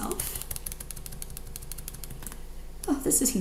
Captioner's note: keyboard clicks